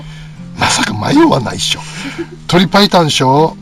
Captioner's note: laughs